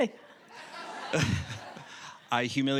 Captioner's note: audience laughing